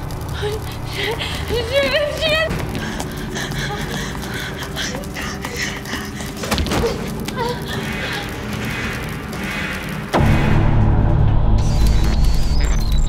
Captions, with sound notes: Oh, shit. Oh shit, oh shit! (groaning) (eerie music)